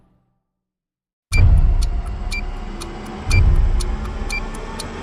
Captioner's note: beeping